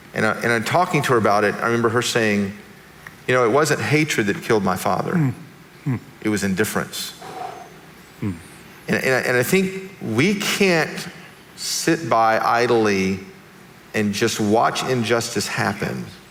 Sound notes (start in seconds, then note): 7.2 exhales